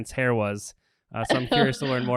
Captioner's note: laughs